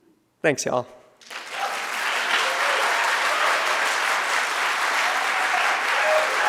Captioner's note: audience cheering and applauding